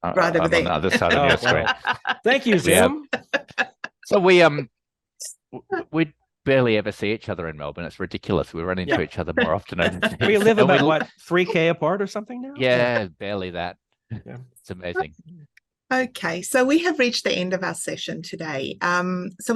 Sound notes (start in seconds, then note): 0.2 laughing